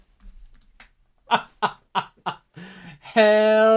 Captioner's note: laughs